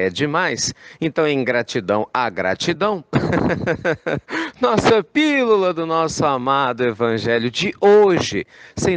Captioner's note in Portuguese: risos